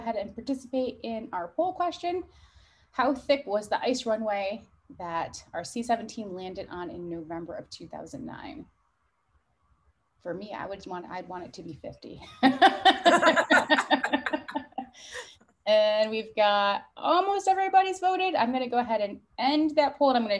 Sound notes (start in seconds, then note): 12.2 laughing; 12.4 laughs